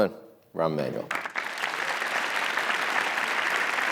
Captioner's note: audience clapping